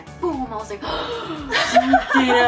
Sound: gasp

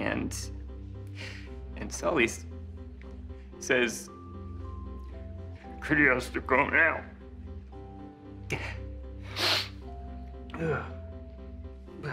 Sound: sniffs

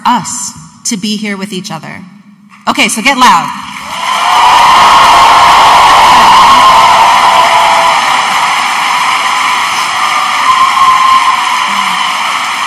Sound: audience applauding and cheering loudly

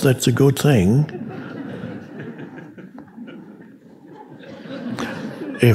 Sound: audience laughing

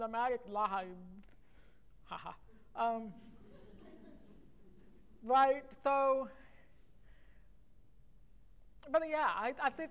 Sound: laughter

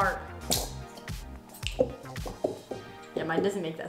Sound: bottle farts

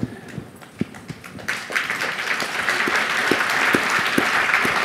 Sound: audience applauding

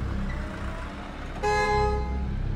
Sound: horn blares

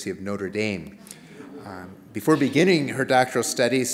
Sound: laughter

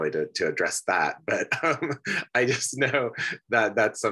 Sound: laughs

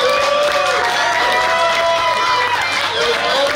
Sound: clapping & Cheering

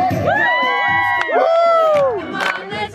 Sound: audience cheers

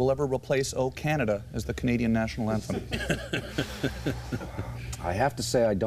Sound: laughter

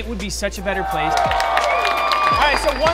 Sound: cheering

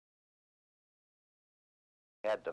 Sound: silent

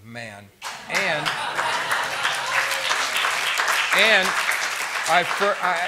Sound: laughter and applause

